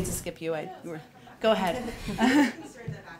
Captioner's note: laughs